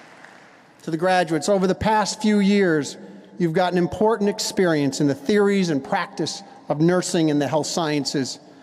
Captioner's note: applause